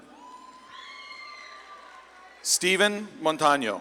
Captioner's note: audience claps and cheers